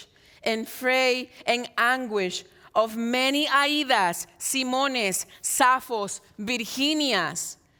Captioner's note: speaks in Spanish